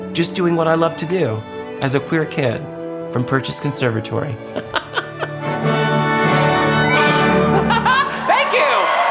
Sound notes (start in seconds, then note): 4.5 laughing